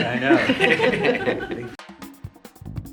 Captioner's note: all laugh; upbeat music